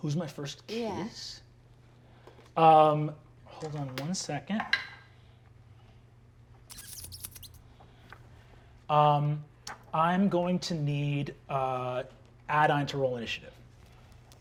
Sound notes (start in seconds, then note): 5.1 die rolling